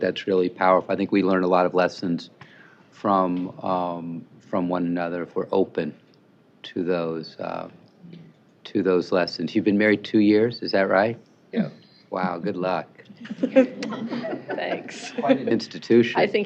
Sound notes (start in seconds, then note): 13.2 laughter